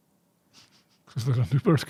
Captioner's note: chuckling